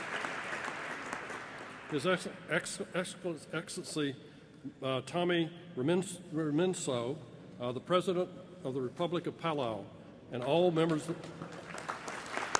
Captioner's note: applause; applause